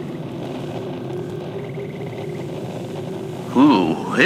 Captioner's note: wind picks up fx